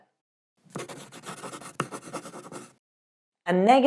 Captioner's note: pen writing on paper